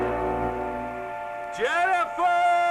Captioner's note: shouting